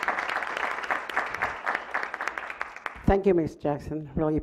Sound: clapping

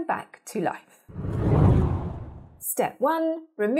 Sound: scene whooshes

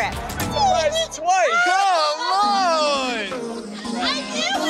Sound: people chattering

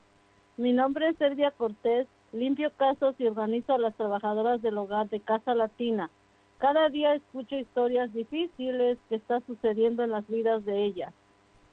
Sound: speaking spanish

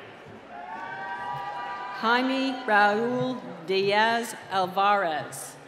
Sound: cheering

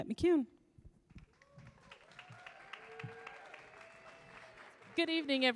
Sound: audience applauds

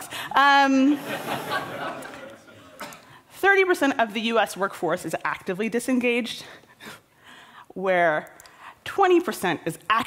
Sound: laughter

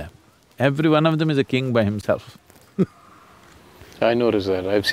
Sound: laughs

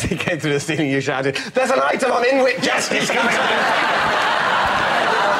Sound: interrupted by laughter

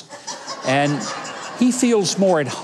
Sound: audience laughing

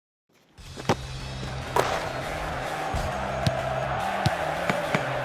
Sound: soccer crowd roaring

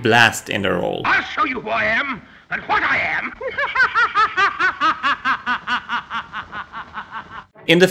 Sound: hooting and hollering

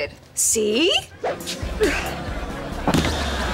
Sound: grunting

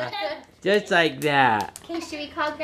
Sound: laughs

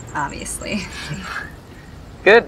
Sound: chuckles

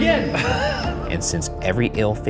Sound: laughs

